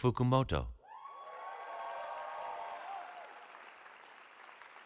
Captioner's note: cheering